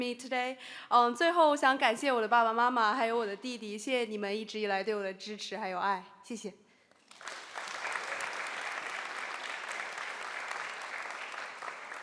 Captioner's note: speaking Chinese